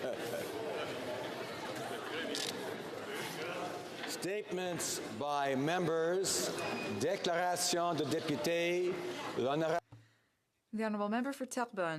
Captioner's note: speaking French